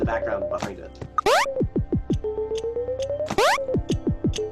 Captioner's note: switch bleeping